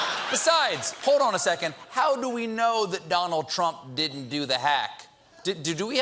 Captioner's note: laughter